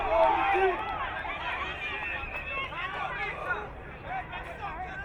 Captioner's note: crowd muttering